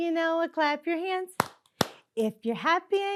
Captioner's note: clapping